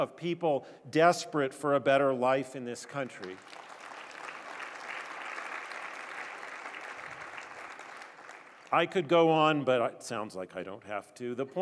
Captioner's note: applause